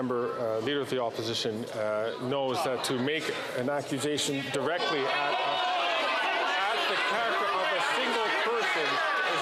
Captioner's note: some Applause